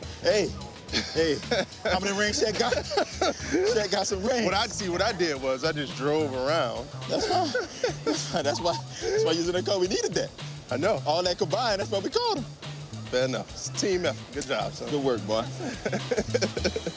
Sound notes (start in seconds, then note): 0.8 laughter; 1.4 laughs; 15.5 laughs